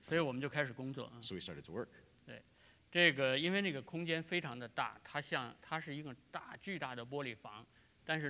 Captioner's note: speaking in Chinese